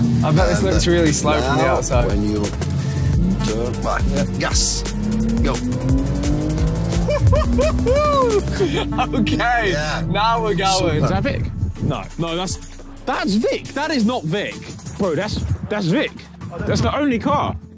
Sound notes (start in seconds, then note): 5.4 car engine revving; 7.0 Vik whooping